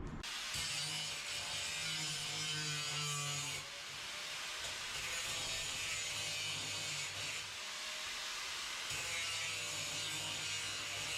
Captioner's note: grinder noises